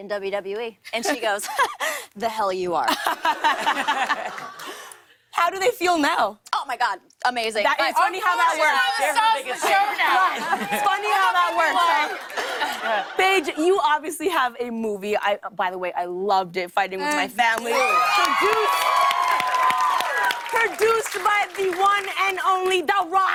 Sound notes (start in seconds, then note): 1.1 laughs; 2.8 laughter; 9.6 cheers and applause; 17.5 cheers and applause; 17.5 cheers and applause continue